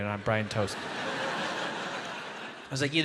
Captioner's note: audience laughs